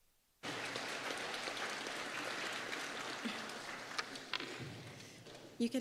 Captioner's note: applause